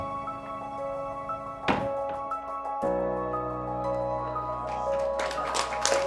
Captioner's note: door clangs; audience applauds